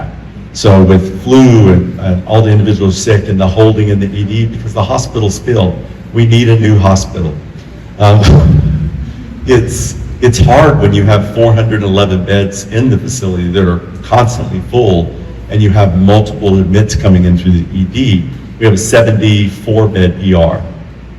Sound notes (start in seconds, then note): 8.5 laughs